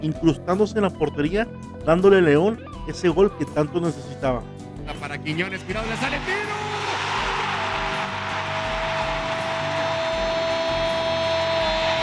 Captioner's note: applause